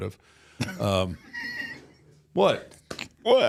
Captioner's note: Mark laughs